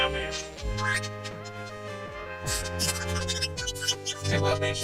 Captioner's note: chirps; chirping continues